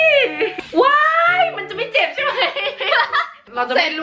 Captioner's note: scream